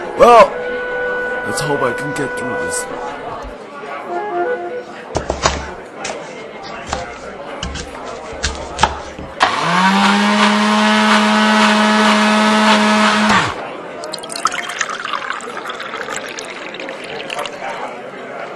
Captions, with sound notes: WELL...LET'S HOPE I CAN GET THROUGH THIS... [ Vegetables Chopping ] [ Food Processor Whirring ] [ Liquid Pouring ]